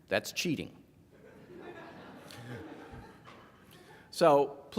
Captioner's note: laughing